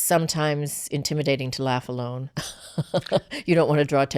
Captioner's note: laughs